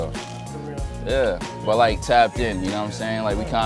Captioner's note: laughs